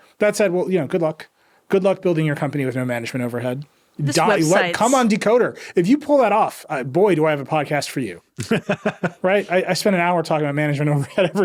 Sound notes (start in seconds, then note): 8.4 laughing